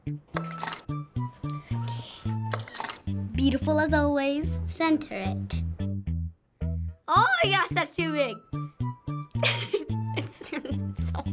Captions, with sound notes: (whispering) Ok. (whispering) Ok. (whispering) Ok. Beautiful as always. Center it! Oh my gosh, thats too big. (laughing)